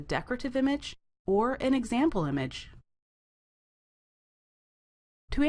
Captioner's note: brief silence